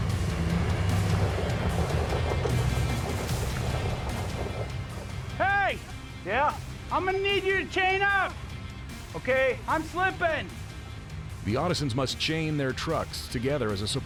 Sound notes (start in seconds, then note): 0.0 tires spinning